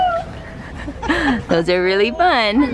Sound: laughs

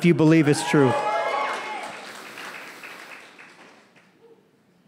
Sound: crowd cheering

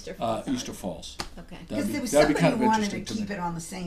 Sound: voiceover

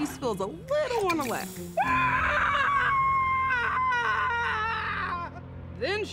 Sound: screams loudly

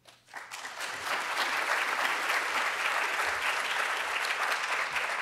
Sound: audience applauds

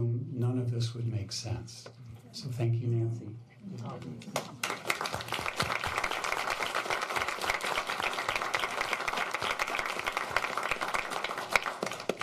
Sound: applause

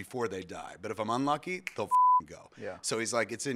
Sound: snaps

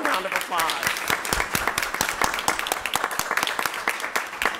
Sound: crowd applauds

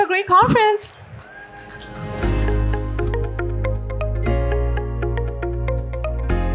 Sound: soft upbeat music; audience applauding

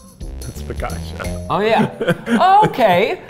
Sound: laughing

